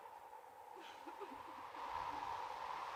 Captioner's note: Mary sobs